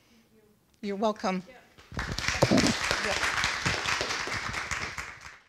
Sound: applause

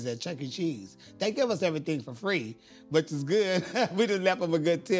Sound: laughs

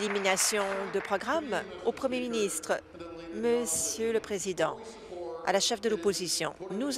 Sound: applause

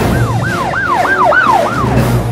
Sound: police Siren

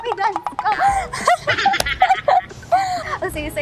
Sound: laughing

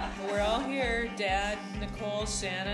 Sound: laughing

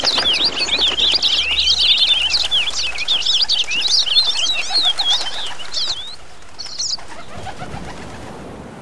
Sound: birds' Whistle

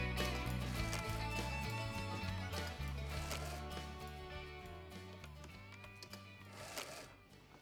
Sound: clicking, paper rolling

